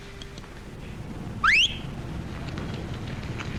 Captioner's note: whistling